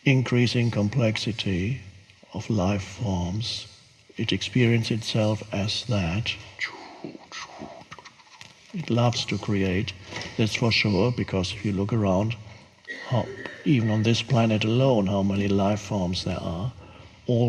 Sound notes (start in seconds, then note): 4.6 mimics whooshes